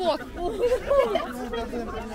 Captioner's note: laughting